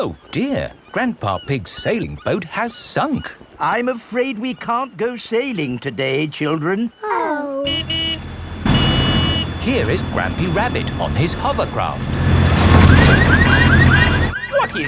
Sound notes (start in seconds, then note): 7.6 honking; 13.0 car alarms blaring